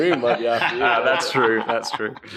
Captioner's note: laughing